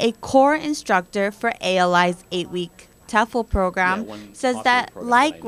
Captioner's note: background conversation